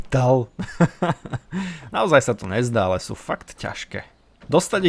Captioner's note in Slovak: smiech